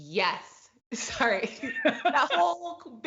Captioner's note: both laugh